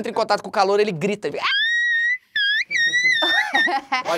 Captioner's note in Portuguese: dá um grito agudo